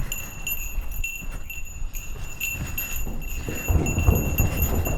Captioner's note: bell rings